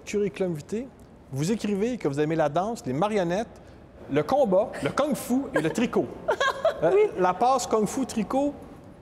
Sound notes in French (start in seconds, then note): 3.3 rires